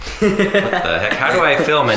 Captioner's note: laughing